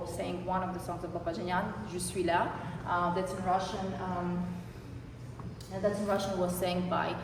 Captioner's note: non-english speech